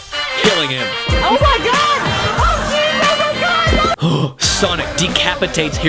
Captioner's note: gasp